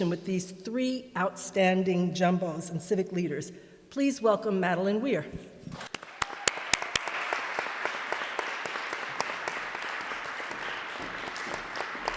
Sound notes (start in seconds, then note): 5.8 audience applauds